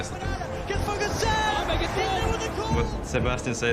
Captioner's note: crowd continues cheering